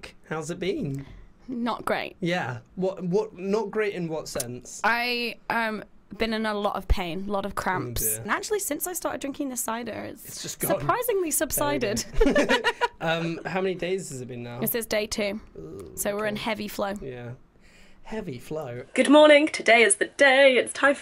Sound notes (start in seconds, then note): 12.0 laughs